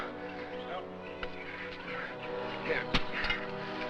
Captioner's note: panting